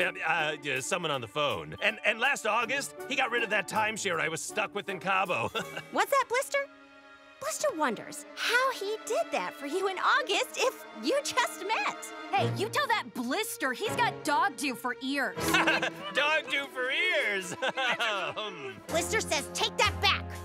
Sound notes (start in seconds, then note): 15.4 chuckles